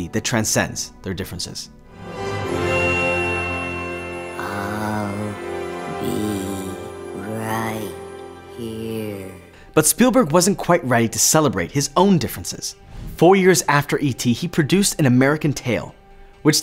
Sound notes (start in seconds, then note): 1.9 bell ringing; 2.7 dramatic music